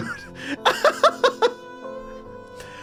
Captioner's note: laughs